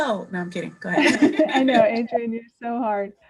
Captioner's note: laughing